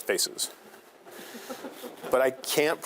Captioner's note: students laughing